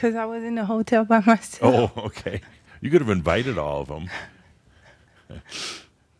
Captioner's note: they chuckle